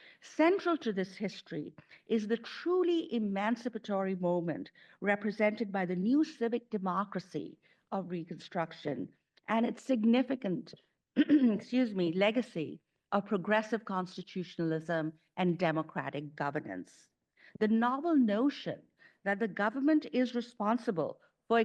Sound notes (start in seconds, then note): 11.2 clears throat